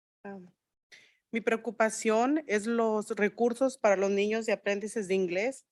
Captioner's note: speaking in Spanish